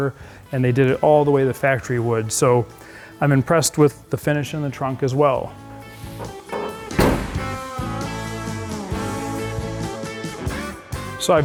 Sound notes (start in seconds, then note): 5.9 door slams; 9.2 cheerful music